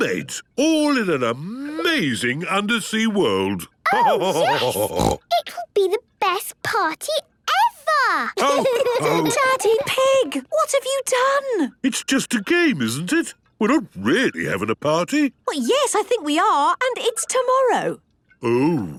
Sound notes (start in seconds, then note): 3.5 laughter and snorting; 8.4 laughter